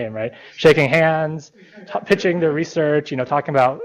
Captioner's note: laughter